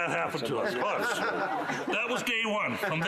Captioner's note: laughter